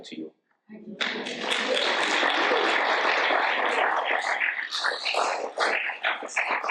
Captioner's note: audience applauds